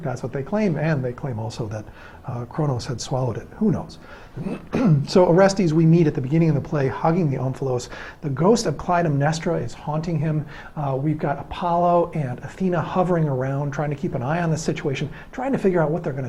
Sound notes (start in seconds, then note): 4.4 cough